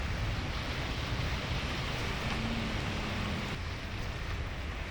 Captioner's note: water rushing